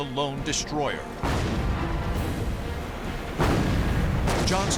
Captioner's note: explosions